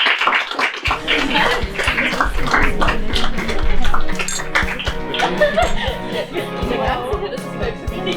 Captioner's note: chatter, glasses clinking, upbeat music